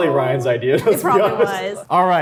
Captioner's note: laughs